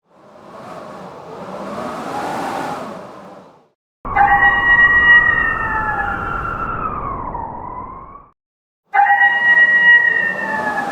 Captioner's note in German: Wölfe heulen